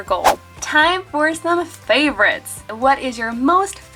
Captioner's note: air whooshing